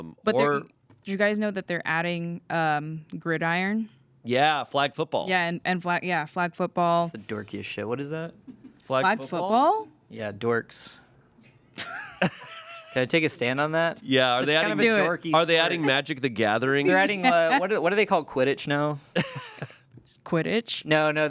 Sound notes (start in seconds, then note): 11.8 everyone laughs